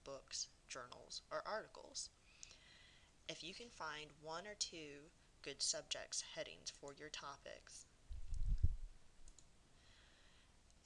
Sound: mouse clicking

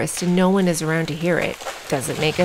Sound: branches breaking

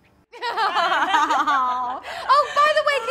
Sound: both laughing

